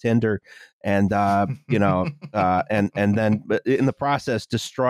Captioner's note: chuckles